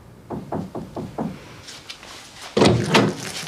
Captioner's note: knocking